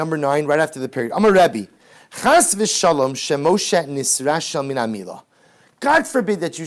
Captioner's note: Hebrew